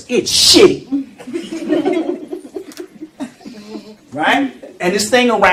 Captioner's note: laughter